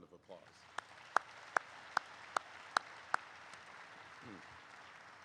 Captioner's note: applause erupts